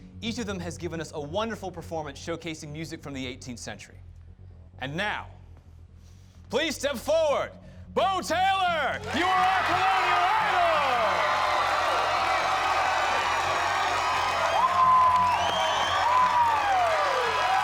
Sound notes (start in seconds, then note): 11.0 cheers and applause